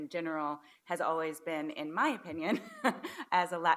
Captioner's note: laughs